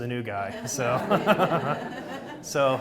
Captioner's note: audience laughs